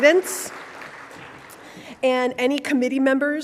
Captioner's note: audience applauding